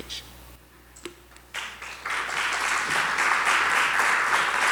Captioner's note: clapping